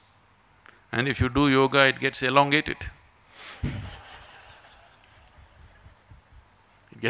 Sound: laughter

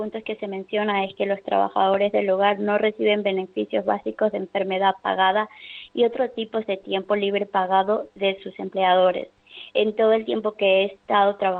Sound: speaking spanish

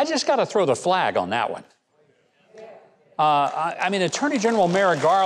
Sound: audience applauding

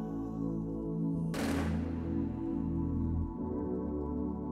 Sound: rapid gunfire

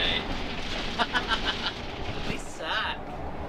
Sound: laughs

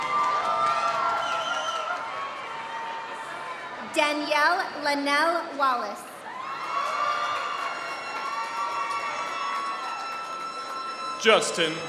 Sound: applause

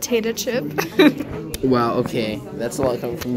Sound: laughing

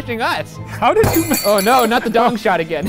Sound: foot slamming on table

